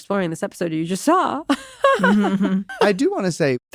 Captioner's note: laughs